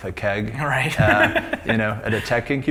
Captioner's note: laughs